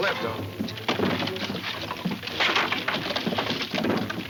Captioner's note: wood rattling